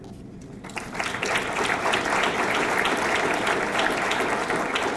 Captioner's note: audience clapping